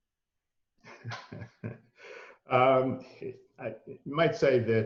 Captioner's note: laughs